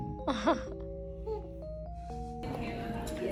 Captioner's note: haha